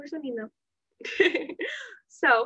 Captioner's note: laughter